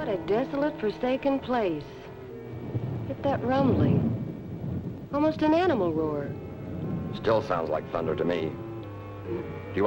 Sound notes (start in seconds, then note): 2.0 thunder rumbling